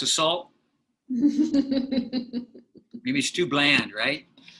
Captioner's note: laughter